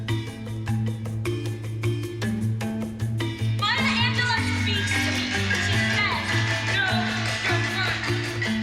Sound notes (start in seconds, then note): 3.5 shouting